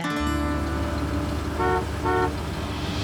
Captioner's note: honk honk